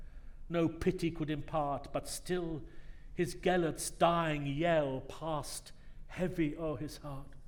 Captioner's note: none